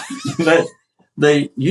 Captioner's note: laugh